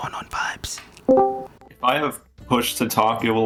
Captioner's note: Discord Join Call Sound